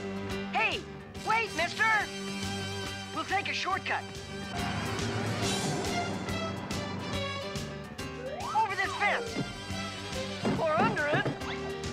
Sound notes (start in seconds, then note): none